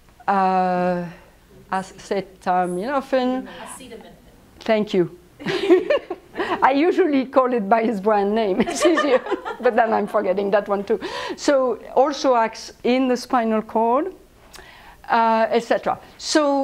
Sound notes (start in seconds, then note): 5.4 laughs